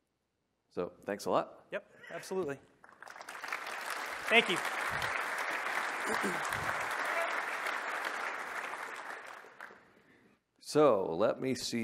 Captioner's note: applause